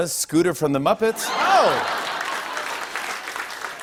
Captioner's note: laughter and applause